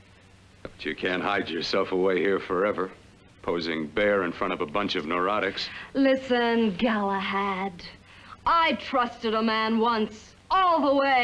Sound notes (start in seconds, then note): none